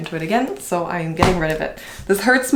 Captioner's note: books thump